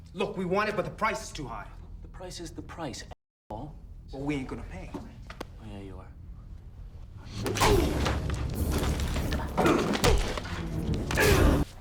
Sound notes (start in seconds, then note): 7.4 punch thuds; 7.9 gangster groans; 8.7 tense music